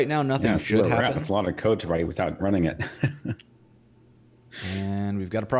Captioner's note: laughing